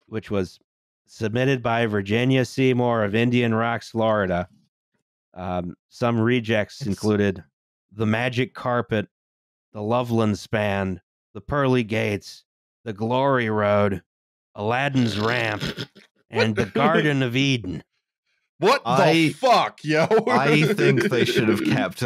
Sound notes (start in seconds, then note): 14.7 snort-laughs